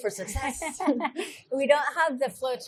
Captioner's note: laughs